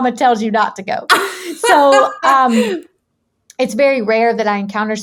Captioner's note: laughing